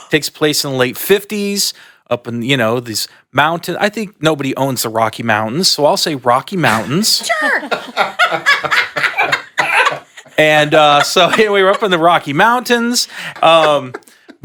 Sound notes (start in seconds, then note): 7.2 laughs; 8.9 panelists laughing